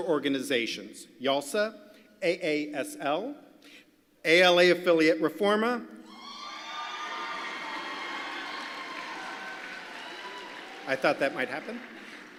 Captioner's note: applause